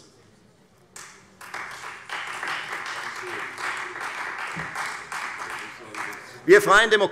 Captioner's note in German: Beifall Freie Demokraten